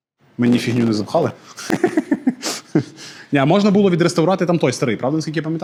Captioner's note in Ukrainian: сміх